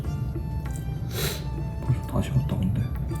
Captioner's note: sniff